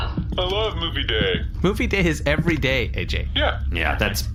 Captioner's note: excited